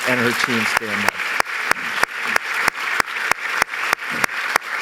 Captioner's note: applause